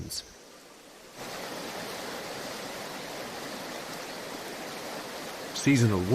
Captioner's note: rushing water